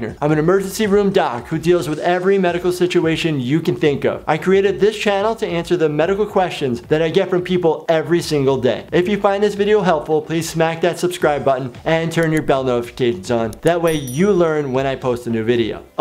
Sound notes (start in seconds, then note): 13.8 bell rings